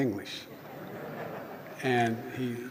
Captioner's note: laughter